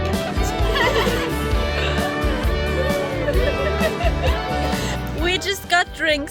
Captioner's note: laughter